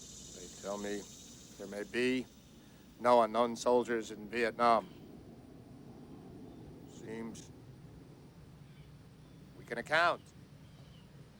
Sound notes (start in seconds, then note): none